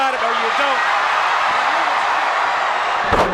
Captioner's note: crowd cheers